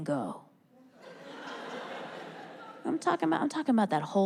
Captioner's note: audience laughs